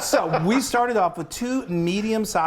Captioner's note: laughing